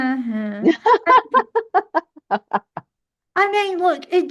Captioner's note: laughs